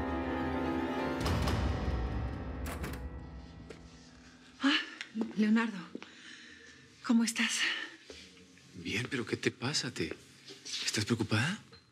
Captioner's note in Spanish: ruido al entrar él